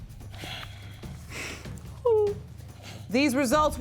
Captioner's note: weeping